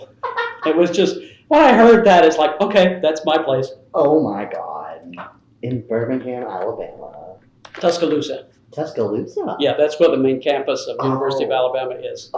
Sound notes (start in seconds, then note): 0.0 laughter